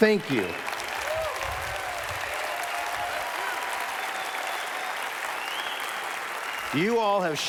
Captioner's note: applause